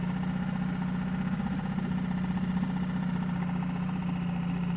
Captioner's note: boat whirring